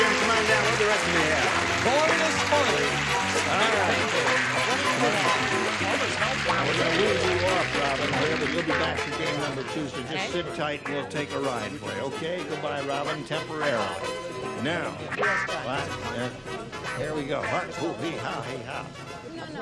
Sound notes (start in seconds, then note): 4.0 chatter